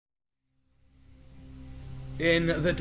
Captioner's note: an ominous sound plays